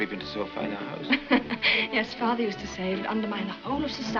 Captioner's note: chuckles